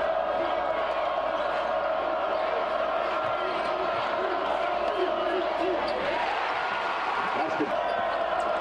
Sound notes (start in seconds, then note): 6.0 cheering and Applause